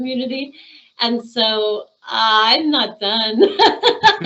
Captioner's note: laughing